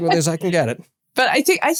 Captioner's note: laugh